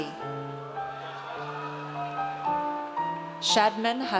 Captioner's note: audience cheers